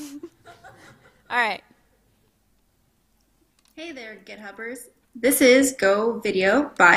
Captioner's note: laughter